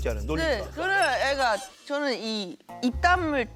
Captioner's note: stuttering